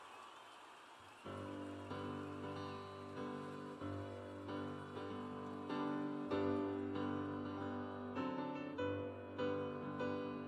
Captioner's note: cheers and applause